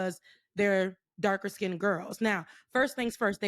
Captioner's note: none